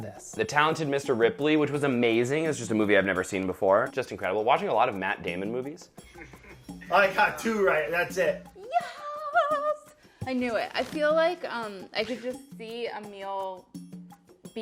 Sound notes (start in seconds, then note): 6.0 laughing